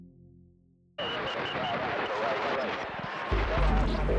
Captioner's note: radio static; suspenseful music